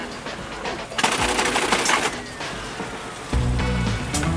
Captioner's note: machinery clacking; upbeat rock music